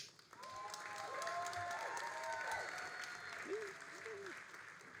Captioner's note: all applauding and cheering